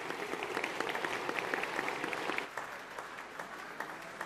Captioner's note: all applauding